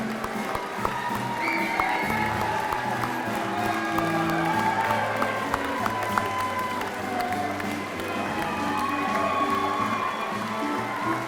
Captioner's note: applause and music continue